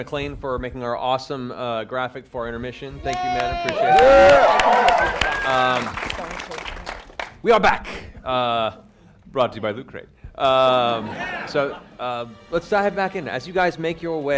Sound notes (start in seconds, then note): 3.0 cheering